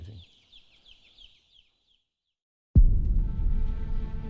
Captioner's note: chicks chirping